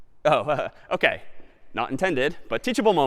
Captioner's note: laughs